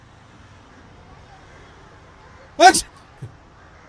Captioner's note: sneeze